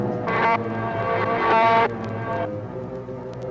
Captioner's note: buzzing